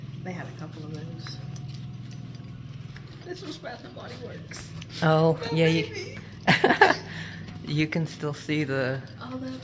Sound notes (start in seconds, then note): 5.5 laughs